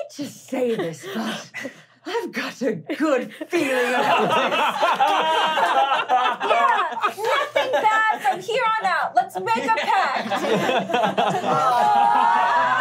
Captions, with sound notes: - I hate to say this but, I've got a good feeling about this. (laughing) - Yeah, nothing bad from here on out! Let's make a pact!